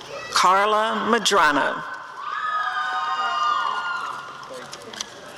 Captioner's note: audience cheering